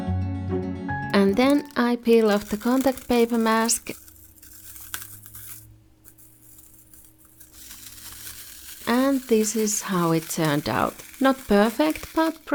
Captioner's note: peeling